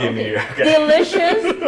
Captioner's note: laughing